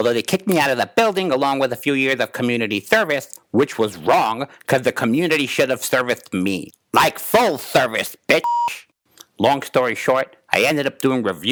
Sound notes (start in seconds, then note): 8.4 beep